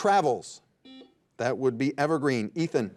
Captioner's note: buzzer dings